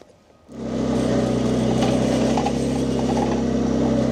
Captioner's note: machinery rumbling